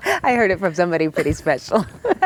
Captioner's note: laughing